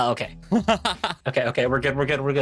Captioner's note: laughs